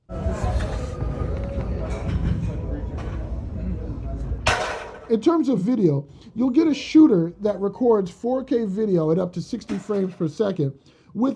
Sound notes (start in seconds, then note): 0.2 gym background noise; 4.3 weights clank